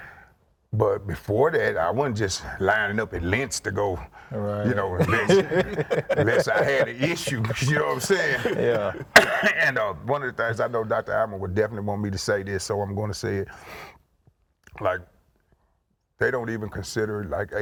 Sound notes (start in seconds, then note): 4.6 laughs